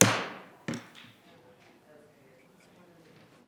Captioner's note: gavel thudding